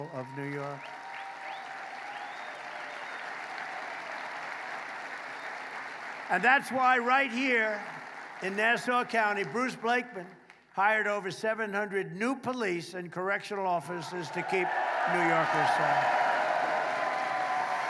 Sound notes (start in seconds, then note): 6.6 applause